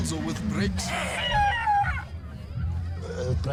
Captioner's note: imitates car braking hard